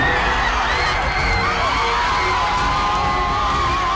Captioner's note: cheering